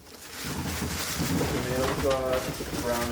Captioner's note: bag rustling; onions tumbling